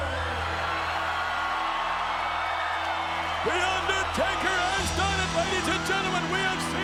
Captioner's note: applause